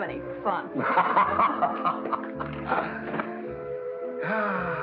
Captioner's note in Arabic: هانك يضحك